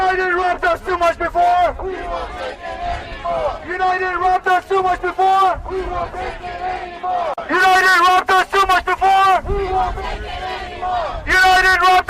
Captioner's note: chanting